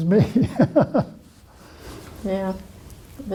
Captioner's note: laughter